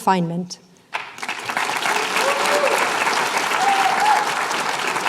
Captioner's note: applause